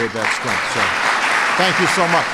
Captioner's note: applause